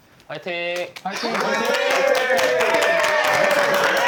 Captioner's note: generous applause for the first performers